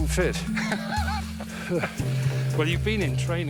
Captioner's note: laughs